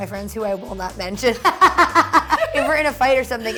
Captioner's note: laughs